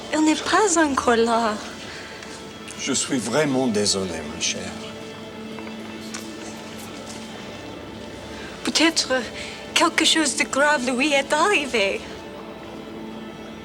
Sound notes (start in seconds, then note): 0.1 Jilly speaks French; 2.7 John speaks French; 8.6 Jilly speaks French